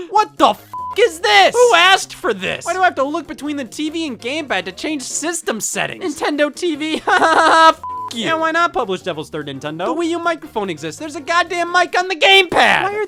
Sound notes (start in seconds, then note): 0.7 beep; 6.9 laughs; 7.8 beep